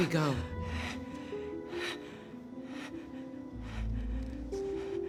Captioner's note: breathing heavily